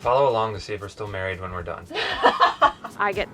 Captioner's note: laughing